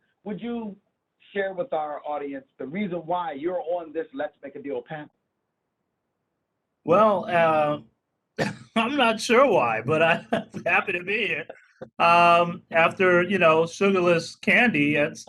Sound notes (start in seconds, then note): 9.8 laughing